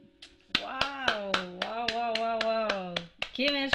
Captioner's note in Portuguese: aplausos